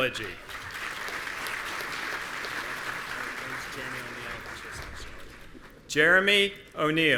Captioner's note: audience applauding; officials chattering